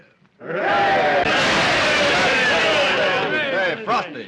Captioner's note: all cheering